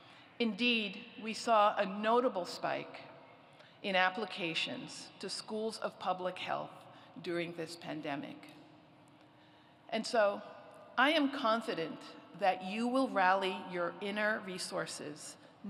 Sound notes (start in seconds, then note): none